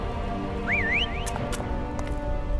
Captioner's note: sharp whistle